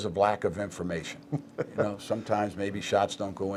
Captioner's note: laughing